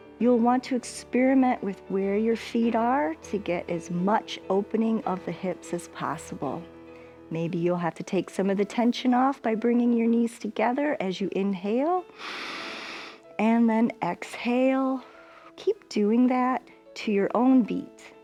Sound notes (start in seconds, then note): 12.1 inhales